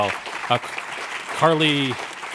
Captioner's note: audience applauding